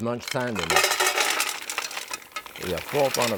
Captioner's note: mussel rattling